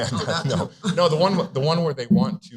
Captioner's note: chuckling